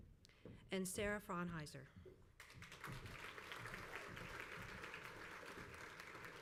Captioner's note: crowd applauds